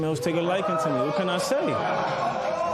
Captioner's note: spectators murmur